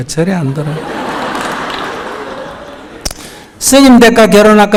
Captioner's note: audience Laughter